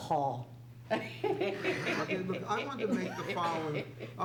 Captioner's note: laughs